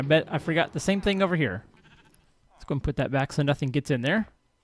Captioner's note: chattering continues; sheep bleats